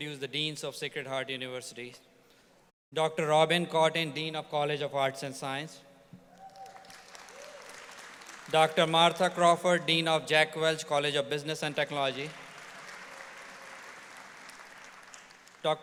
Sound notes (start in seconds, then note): 6.3 audience applauds; 12.0 audience applauds